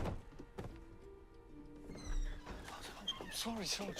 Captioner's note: body thuds